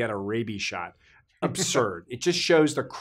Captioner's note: laughs